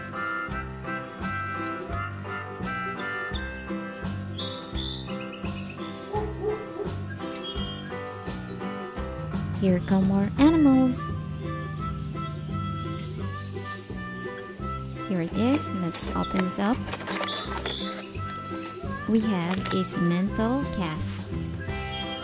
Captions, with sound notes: (dog barks) Here come more animals Here it is and let's open this up We have a Simmental calf